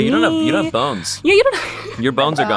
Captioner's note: laughs